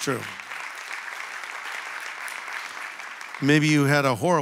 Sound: audience applauding

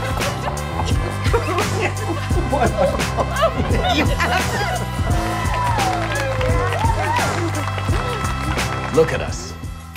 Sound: laughing

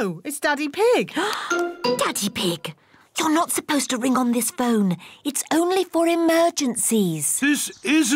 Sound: gasps

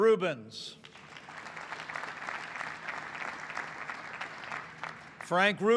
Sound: applause

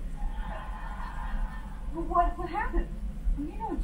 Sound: audience laughter

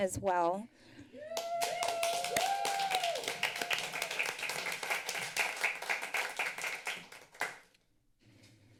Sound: applause

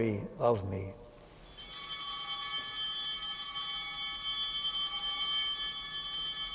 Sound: chimes ringing

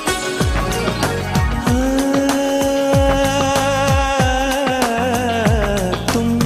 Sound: humming

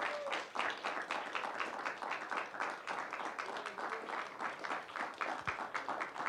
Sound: applause

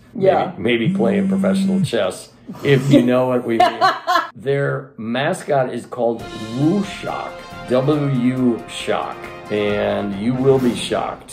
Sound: vibrating sound; laughing; action music

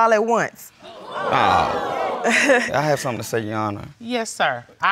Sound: audience exclaiming

